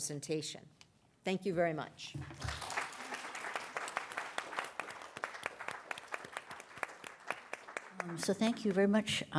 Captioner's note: applause